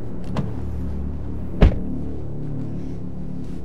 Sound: car door shutting

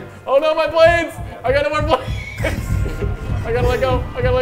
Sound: laugh

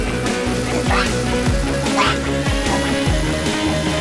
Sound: quacking

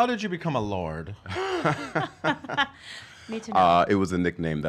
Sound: laughing

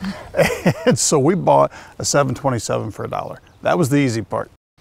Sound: laughs

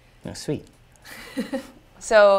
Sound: laugh

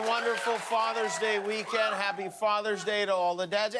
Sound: cheers and applause

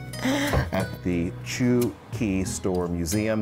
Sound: laughs

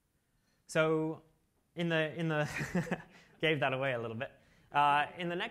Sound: laughs

